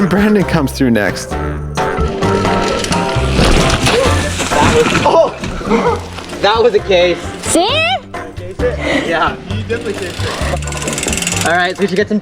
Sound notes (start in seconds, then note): 3.5 bike crashing on tree